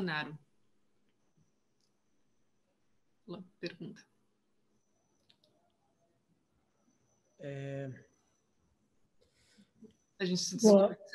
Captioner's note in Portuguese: silêncio